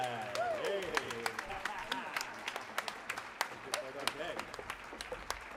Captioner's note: audience applauds; laughs